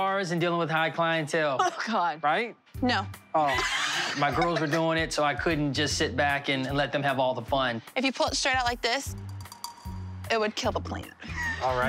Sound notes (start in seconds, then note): 3.5 girls laughing